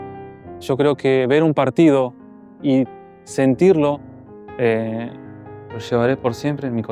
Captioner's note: in Spanish